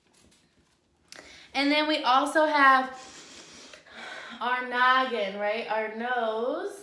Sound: sniffs

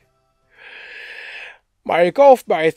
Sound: gasps for air

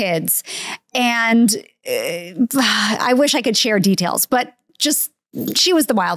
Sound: sighs

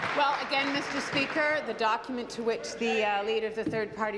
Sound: applause

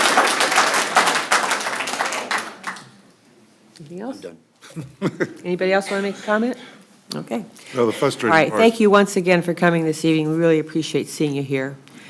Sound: applause

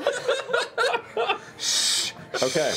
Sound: laughter

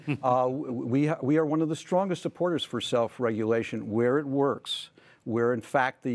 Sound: laughter

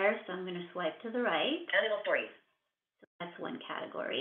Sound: VoiceOver voice

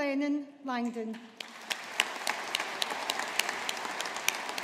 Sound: audience applauding

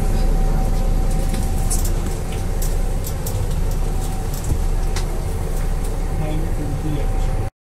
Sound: bus Noises

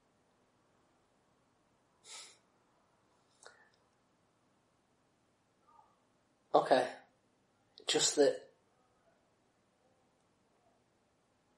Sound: silence

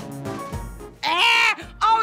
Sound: screaming

